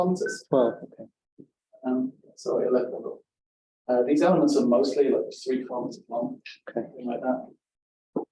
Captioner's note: device Beep